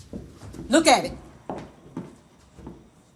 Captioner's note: footsteps thudding